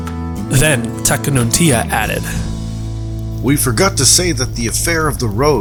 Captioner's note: iroquois Voice